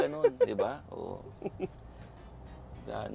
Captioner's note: chuckles